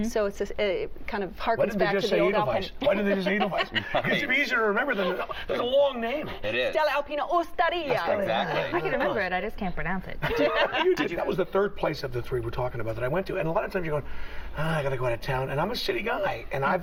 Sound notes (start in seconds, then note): 2.9 laughter; 10.2 laughter; 14.9 sighs